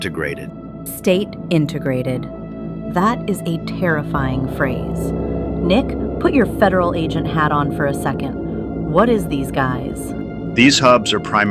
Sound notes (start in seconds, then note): 5.2 excited